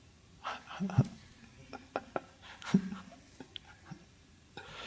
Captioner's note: Eckhart chuckles